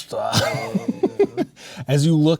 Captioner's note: players laughing